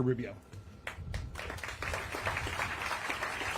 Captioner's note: applause